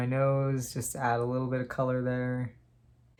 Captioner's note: none